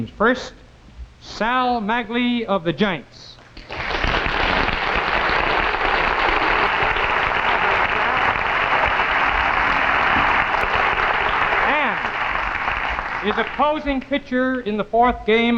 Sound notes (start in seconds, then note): 3.7 audience clapping